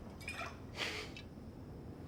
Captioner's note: laughs